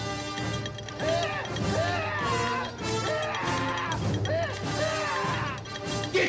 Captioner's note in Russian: крики агонии